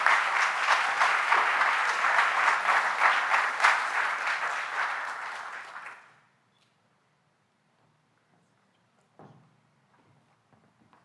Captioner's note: applause